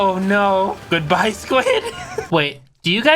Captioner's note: laughing